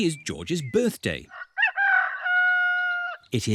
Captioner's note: roster crows